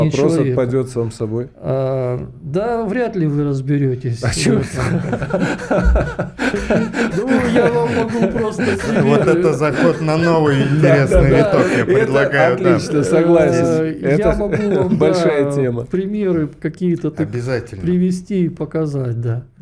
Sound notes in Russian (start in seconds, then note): 4.3 смех